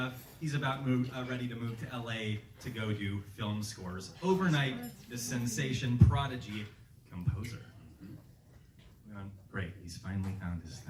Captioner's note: uh hum